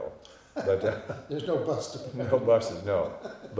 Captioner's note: chuckling